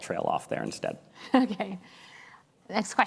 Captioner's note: laughs